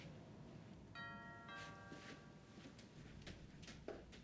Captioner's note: doorbell rings; footsteps departing